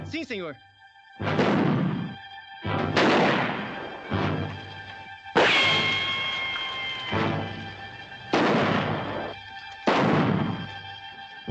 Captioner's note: gunshots - tense music